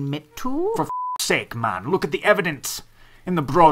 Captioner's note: beep